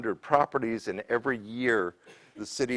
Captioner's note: cough